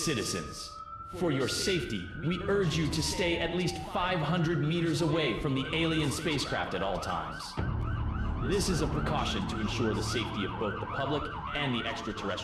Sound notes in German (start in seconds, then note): 7.5 Polizeisirenen